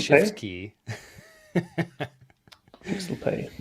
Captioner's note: laughs